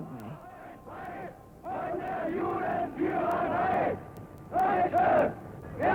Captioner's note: Nazis chanting in German